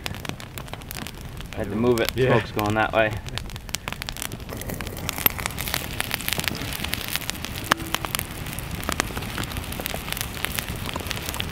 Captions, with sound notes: I had to move it, the smoke's going that way. (fire crackling)